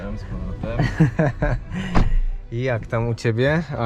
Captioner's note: laughter